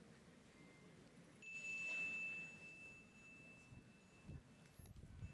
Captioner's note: bell dings